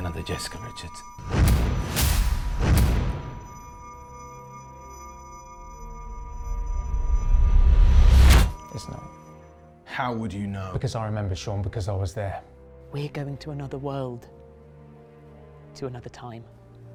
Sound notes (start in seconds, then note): 1.2 dramatic beat thudding; 3.0 high-pitched tone ringing; 5.0 somber music; 6.5 memory image whooshes